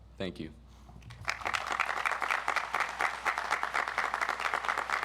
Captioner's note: audience applauds